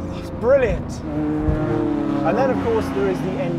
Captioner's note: car engine revving